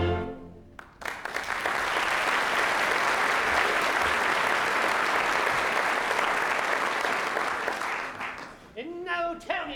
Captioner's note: applause